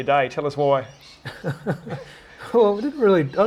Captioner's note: laughter